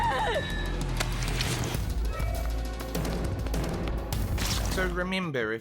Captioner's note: licking And Sticking Sounds